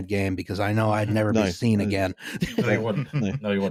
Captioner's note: laughing